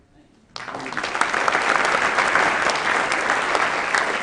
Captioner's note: applause